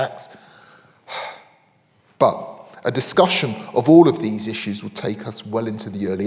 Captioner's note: exhales